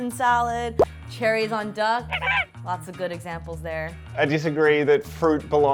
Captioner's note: quacking